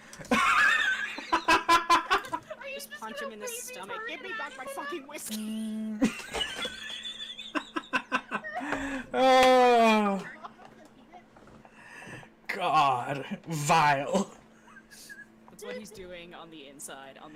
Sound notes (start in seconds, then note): 0.1 laughing; 6.9 wheezing